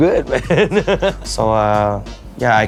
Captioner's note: laughs